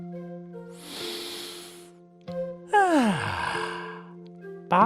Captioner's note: breathes deeply